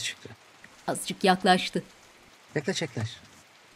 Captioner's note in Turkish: Yağmur sesi